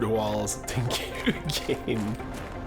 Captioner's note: laugh